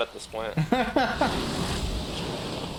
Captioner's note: laughs